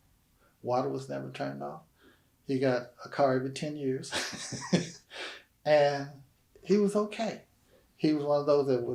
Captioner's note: laughs